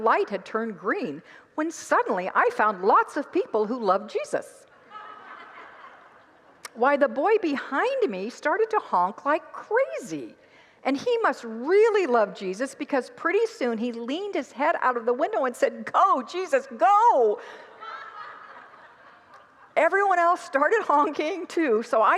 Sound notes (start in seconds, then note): 4.8 congregants laugh; 17.5 congregants laugh